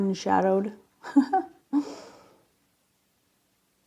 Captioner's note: giggles